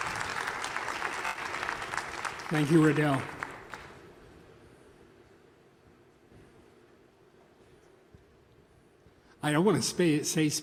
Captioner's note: applause